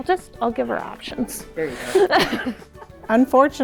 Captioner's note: laughs